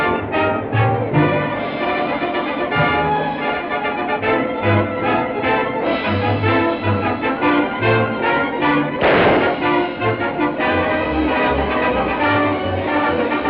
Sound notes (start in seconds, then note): 9.0 gunshot; 10.5 suspenseful music